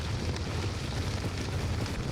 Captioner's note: fire roaring